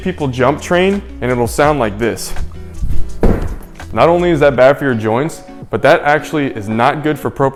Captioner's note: loud landing